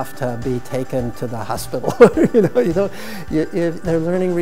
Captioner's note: chuckles